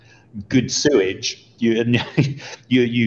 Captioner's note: laughs